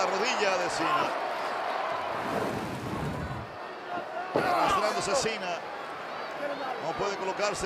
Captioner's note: applause